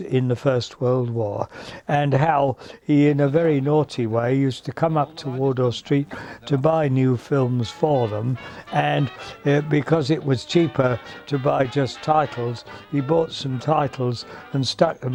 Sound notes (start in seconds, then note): none